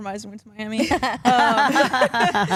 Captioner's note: all laugh